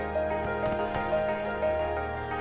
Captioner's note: musket fire